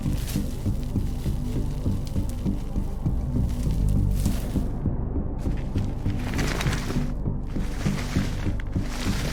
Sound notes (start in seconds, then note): 0.1 tense music continues; 5.8 bodies scuffling